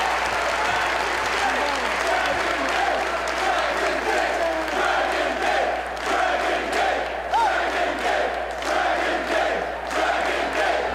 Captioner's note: applause